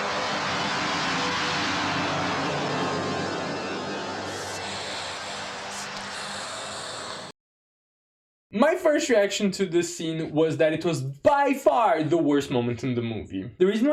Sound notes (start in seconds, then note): 4.3 whispering